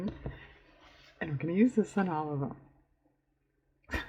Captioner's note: laughs